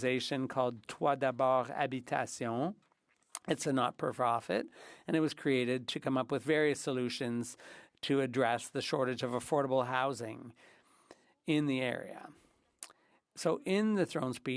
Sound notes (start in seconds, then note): 6.1 speaking French